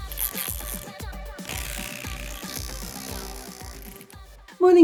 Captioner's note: buzzing sound